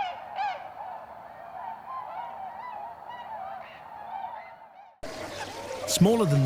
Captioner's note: birds chirping